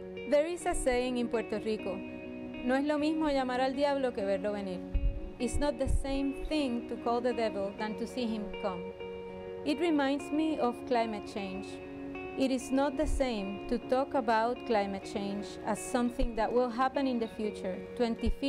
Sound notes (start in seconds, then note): 2.5 speaking in foreign language